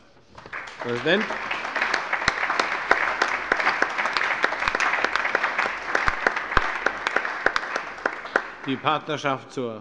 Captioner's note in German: Allgemeiner Beifall